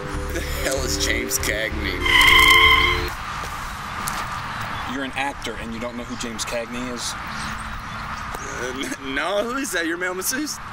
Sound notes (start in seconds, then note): 1.9 screech. Music stops